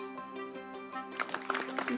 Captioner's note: audience applauding